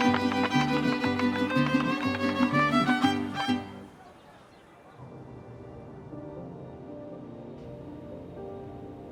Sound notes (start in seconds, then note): 5.0 birdsong